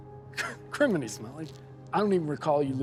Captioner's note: laughs